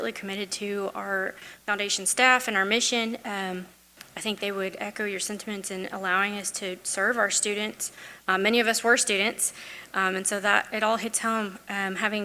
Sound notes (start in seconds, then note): none